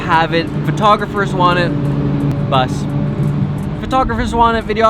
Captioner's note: loud engine revs